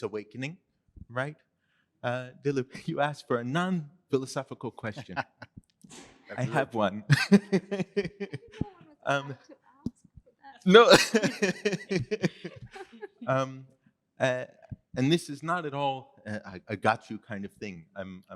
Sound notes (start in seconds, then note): 10.8 laughter